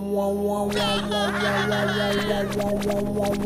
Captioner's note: screaming in Spanish